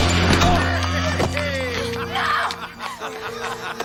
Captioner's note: Harry laughing